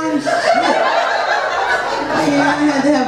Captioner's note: audience laughs